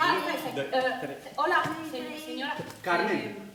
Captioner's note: Spanish